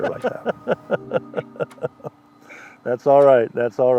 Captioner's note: chuckles